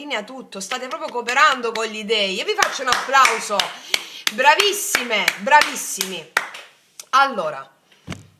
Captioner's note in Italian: applauso